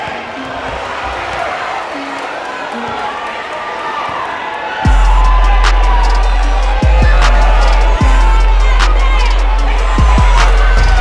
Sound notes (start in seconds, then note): 0.9 audience cheering; 4.8 trap music